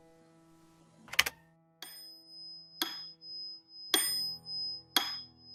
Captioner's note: metronome ticking